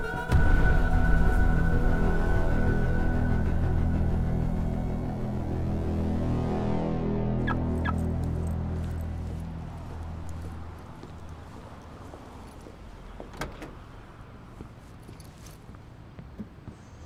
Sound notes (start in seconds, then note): 0.1 dramatic music; 7.4 car alarm beeping